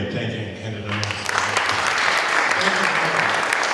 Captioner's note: applause